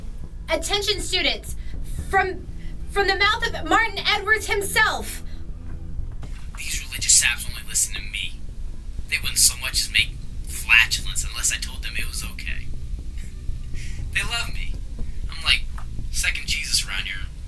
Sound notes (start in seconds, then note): 6.6 Marty's Voice Over Tape Player; 12.9 laughs